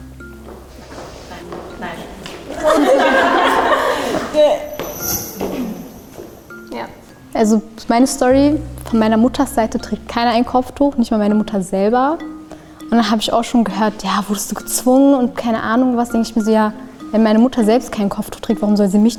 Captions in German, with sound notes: (Gelächter) Also, meine Story, von meiner Mutters Seite trägt keiner Kopftuch. Nicht mal meine Mutter selber. Und dann habe ich auch schon gehört, wurdest du gezwungen, keine Ahnung. Und ich denke so, ja, wenn meine Mutter selbst kein Kopftuch trägt,